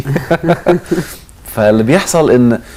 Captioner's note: laughter!